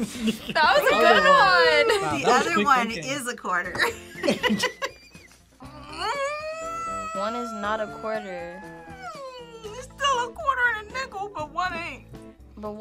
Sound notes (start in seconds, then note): 3.8 both laugh; 5.7 grunts